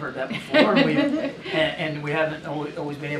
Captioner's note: laughter